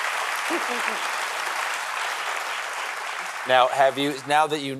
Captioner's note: applause